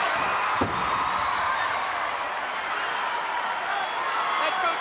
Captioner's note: crowd cheering; Bulldog thuds